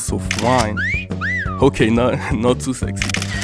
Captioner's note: woman whistles